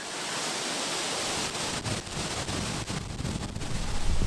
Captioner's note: wind blowing